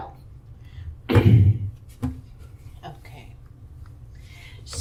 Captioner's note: coughing